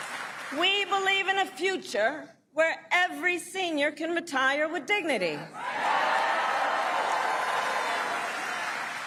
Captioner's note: applause